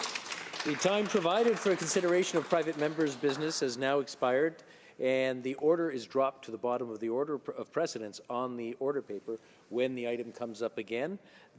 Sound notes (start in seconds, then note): 4.6 some applause